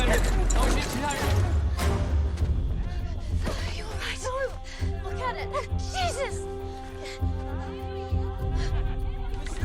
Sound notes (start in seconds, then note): 0.6 soldier shouts orders; 7.5 soldiers shout